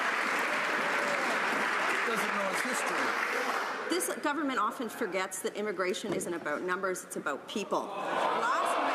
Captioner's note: some Applause